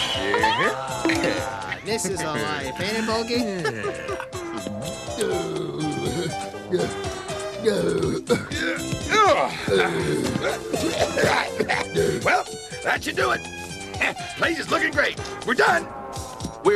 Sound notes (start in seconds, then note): 5.1 grunting; 10.2 coughing